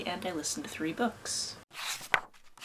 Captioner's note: pages turning